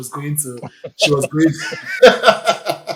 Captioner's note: laughs